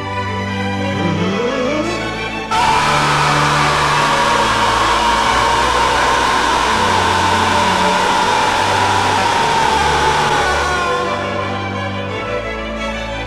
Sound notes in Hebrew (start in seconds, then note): 2.5 צעקה אוטיסטית